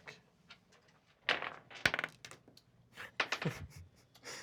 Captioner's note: dice rolls